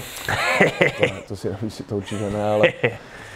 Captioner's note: both laughing